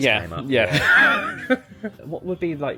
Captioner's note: laughs